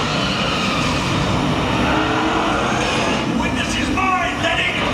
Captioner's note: cars crashing; tires screeching